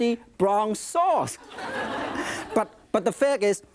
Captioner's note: audience laughing